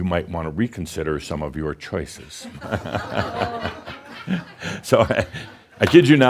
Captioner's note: more chuckles